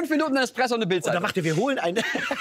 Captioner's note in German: lacht